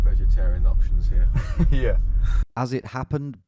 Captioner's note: chuckles